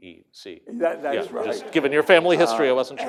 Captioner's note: laughter